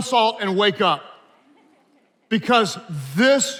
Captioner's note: attendees laughing